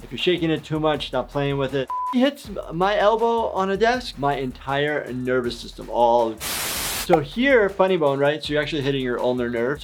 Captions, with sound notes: If you're shaking it too much, stop playing with it. Hits my elbow on a desk, my entire nervous system, all. (static buzzing) So here, funny bone, right? So you're actually hitting your ulnar nerve.